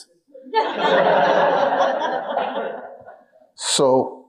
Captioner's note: audience laughing